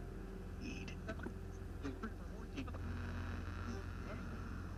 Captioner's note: radio buzzing